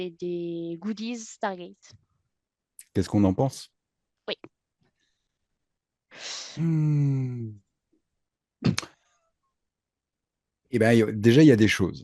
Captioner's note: translating from French